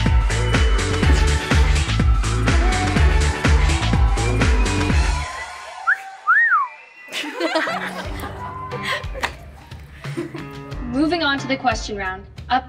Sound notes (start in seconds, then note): 5.6 whistle; 7.1 lauhging